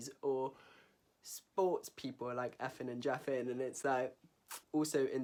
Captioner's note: clicks mouth